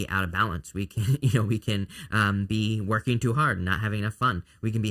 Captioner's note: laughs